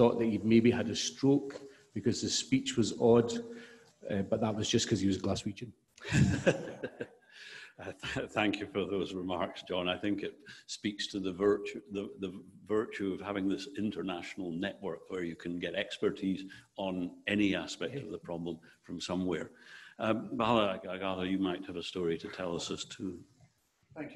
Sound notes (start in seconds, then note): 6.1 audience laughing